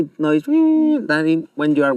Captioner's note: makes a soft high pitched sound